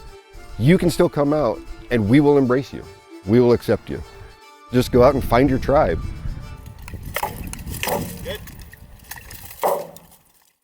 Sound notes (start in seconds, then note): 6.9 weapons clashing; 7.0 chain mail clanking